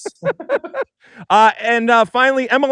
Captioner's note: laughter